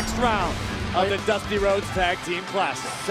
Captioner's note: bell ringing